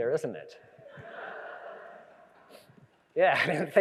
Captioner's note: audience laughs